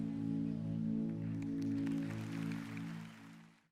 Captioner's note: applause